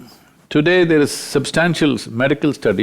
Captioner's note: none